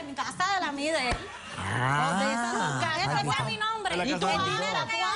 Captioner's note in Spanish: Risas